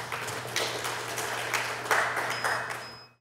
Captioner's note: applause